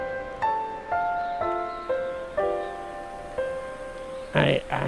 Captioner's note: windy breeze howling